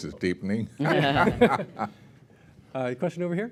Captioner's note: laughter